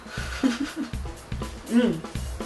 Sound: giggles

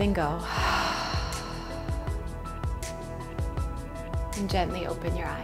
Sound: breathing out loudly

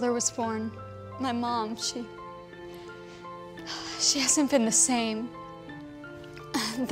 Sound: sighs

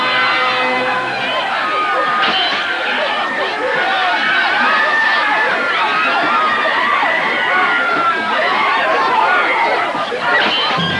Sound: shouting; screaming

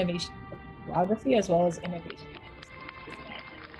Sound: audio distortion; audience clapping

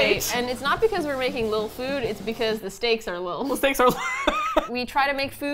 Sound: laughs

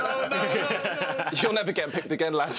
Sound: laughing

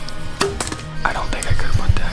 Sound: bow pinging; man Whispering

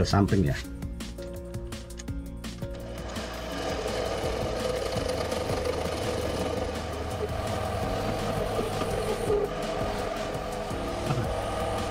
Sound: the sound of a lathe

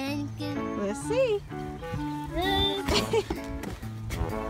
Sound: voiceover

